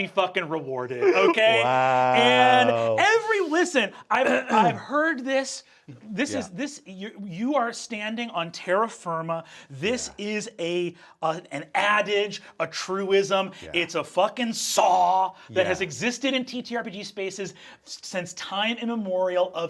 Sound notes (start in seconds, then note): 4.2 throat clearing